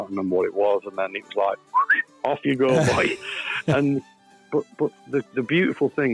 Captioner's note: whistles